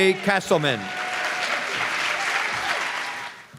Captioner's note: applause